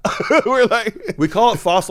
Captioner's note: laughs